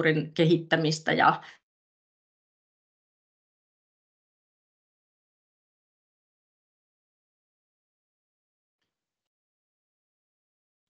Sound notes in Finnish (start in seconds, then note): 2.7 Ääniraita katkeaa